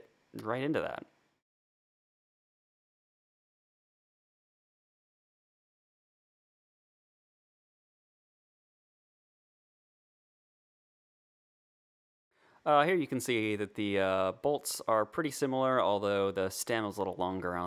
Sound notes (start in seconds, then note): 0.4 awkward pause